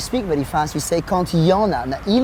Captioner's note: speaks in foreign language